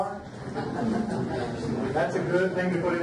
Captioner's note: audience laughs